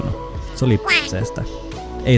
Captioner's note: quacking